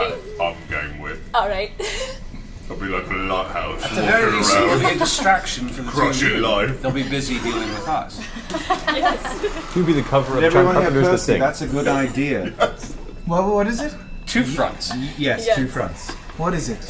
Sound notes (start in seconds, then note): 8.1 all laugh